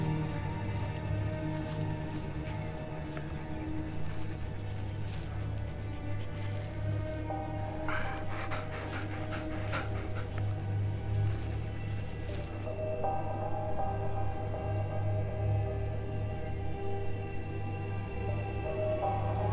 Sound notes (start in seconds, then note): 1.2 grass rustling; 6.6 Lana panting; 11.4 soft orchestral music